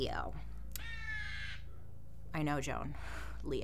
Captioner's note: cawing